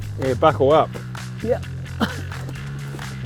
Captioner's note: laughs